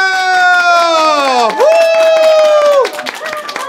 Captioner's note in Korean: 박수